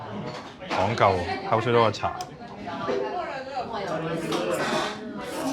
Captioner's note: speaking foreign language